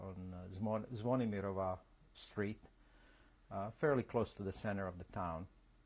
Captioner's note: non-english